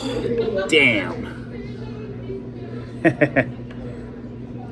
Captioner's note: chuckles